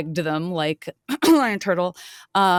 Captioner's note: clearing throat